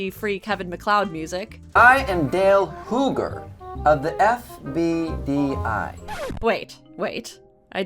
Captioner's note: Scratch